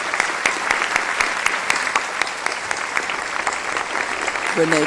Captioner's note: applause